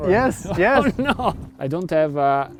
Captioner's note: laughs